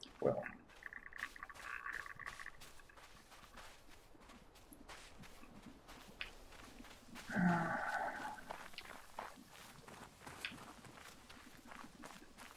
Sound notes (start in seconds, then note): 7.2 sighs